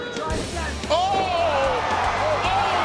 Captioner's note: people yelling